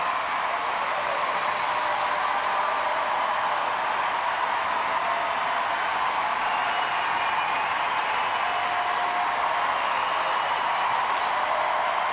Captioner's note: cheers and applause